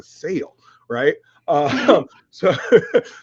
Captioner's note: laughs